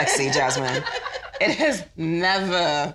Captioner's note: all laugh